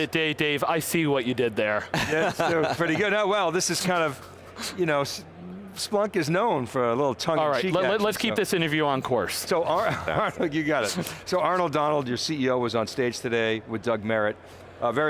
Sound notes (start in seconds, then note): 1.9 laughs; 9.7 laughs